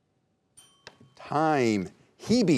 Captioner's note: bell chimes